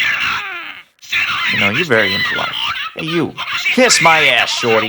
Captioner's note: more aggressive chicken sounds